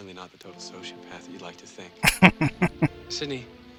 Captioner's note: laughing